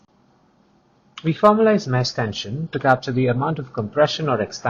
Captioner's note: click, click